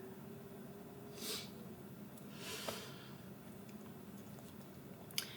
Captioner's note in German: Mutter schnieft